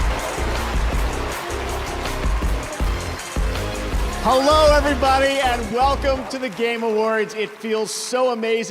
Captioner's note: cheers and applause